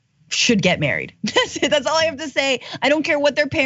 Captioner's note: laugh